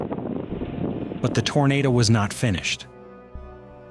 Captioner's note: wind blowing